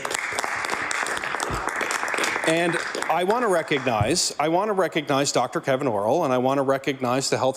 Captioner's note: some Applause